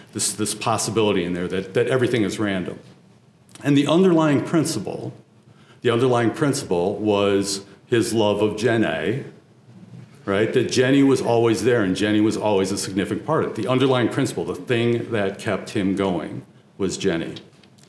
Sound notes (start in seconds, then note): none